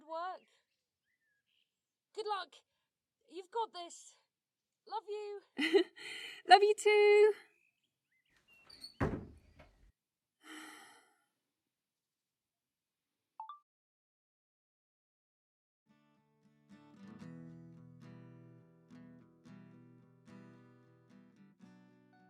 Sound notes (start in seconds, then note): 0.0 voice receding; 8.7 door closes; 12.6 chime of a phone recorder turning off; 15.9 soft guitar music fades in